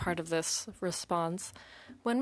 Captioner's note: speaking in French